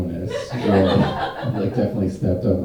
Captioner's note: audience laughing